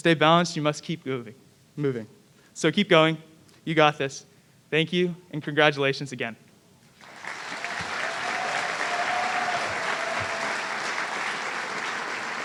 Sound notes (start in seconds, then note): 7.0 audience cheering